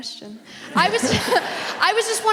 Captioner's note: audience laughs